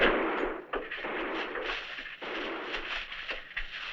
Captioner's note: rattling; distant gunfire